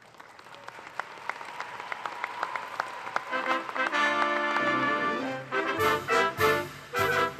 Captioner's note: applause